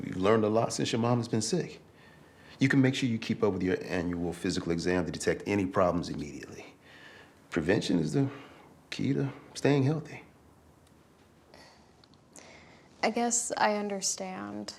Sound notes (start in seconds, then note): none